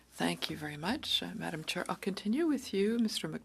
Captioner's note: speaking French